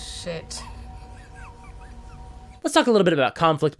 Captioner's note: Liam giggles in anticipation